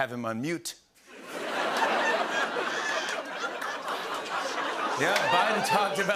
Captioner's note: laughter